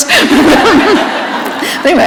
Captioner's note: laughter